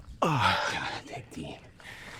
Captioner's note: Liam cries out